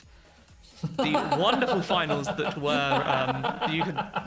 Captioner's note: laughs